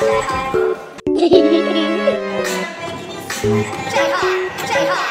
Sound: hahahaha

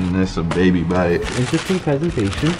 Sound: paper crinkles

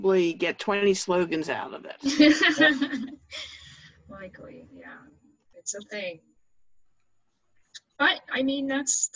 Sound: laughs

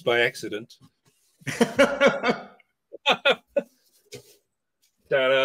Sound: laughter

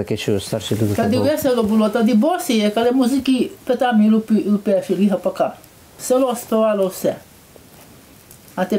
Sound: speaks Polissya dialect

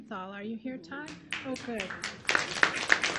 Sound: applause

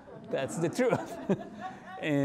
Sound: laughing; audience laughing

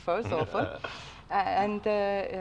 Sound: laughs

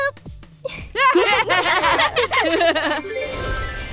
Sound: laughs

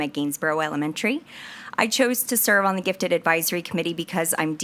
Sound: none

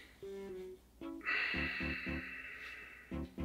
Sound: sighs

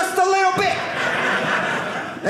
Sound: audience laughing

